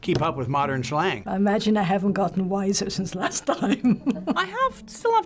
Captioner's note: laughing